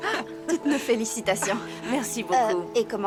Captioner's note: laughing